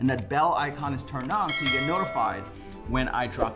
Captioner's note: bell dings